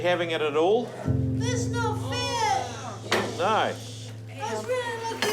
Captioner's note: all exclaim